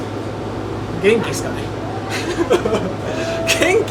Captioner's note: laughs